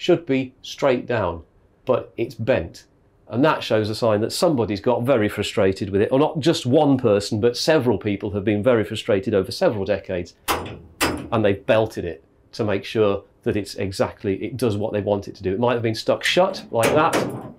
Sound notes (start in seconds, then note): 10.5 clank